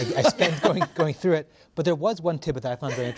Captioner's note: laughter